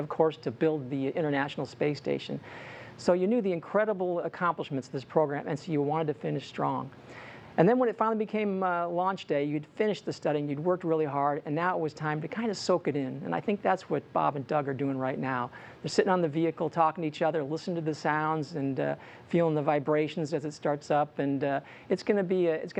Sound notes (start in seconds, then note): none